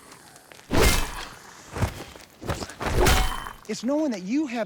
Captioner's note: whack